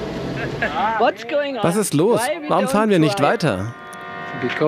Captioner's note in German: englisch